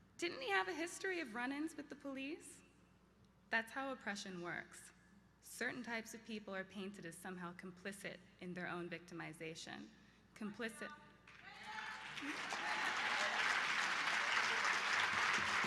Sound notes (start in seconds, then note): 11.3 applause; 11.4 supportive yell